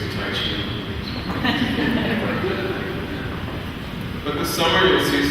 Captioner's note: laughing